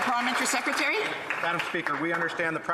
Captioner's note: some Applause